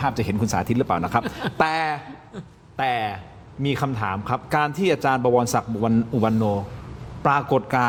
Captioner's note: laughter